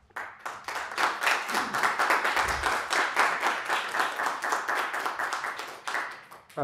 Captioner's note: applause